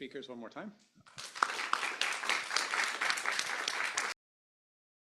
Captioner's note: applause